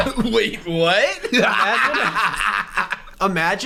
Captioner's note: mocking laughter